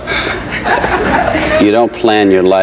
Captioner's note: audience chuckles